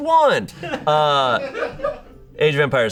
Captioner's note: audience laughing